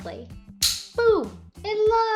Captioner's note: magnetic plates click